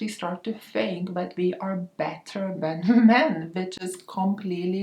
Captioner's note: chuckles